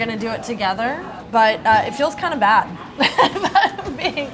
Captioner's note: laughs